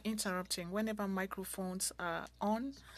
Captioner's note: speaking French